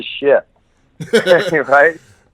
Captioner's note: laughs